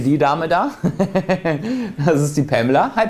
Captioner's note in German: lacht